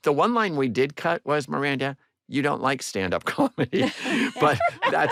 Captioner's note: laughter